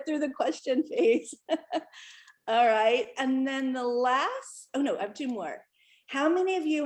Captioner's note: laughter